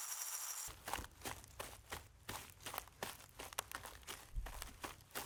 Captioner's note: maraca scraping; footsteps thudding